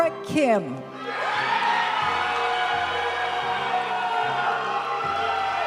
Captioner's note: audience cheering and applauding; graduation music